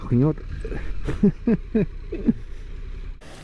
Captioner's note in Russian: смех